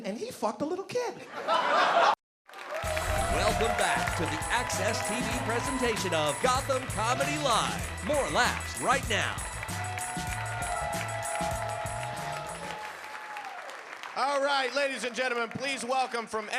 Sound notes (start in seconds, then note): 1.3 audience laughing